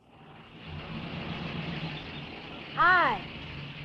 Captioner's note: car engine rumbling